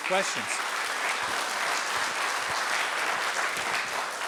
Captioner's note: audience applauding